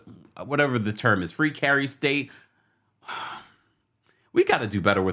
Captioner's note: sighs